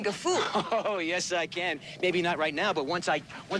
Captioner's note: laughs